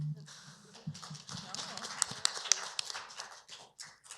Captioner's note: applause